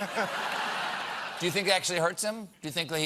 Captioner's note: laughter